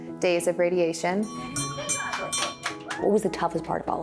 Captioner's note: bell ringing; crowd cheering